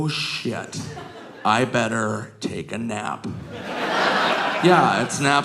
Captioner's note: audience laughing